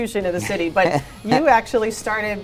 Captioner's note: guest laughing